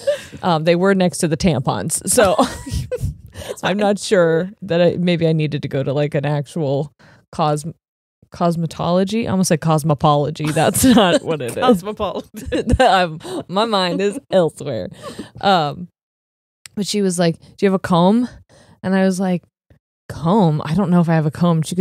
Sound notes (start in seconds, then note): 2.3 both laughing; 12.1 both chuckling